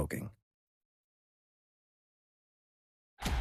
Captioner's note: silence